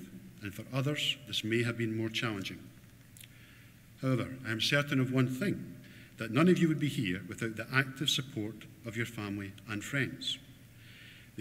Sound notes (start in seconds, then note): none